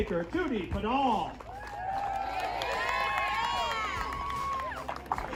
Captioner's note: crowd cheering